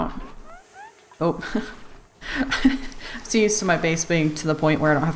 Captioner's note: laughs